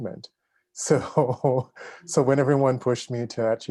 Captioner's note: chuckles